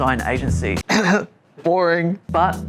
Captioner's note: coughs